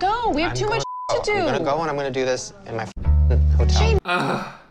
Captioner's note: beep